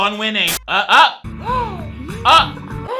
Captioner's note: gasps